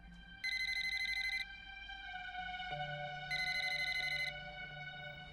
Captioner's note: phone rings